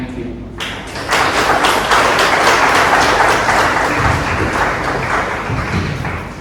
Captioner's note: clapping